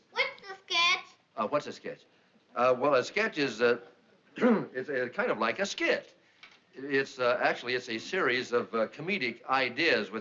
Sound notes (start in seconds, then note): 4.3 clearing throat